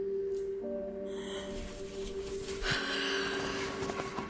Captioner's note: woman sighs; intense music